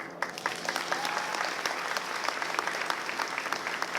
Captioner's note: applause